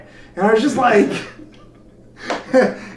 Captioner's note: laughs